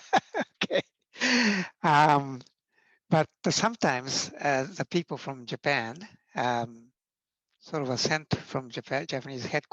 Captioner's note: laughing